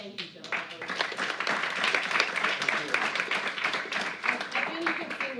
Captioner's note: applause